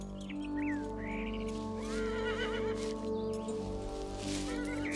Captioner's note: metal clinking; horse whinnying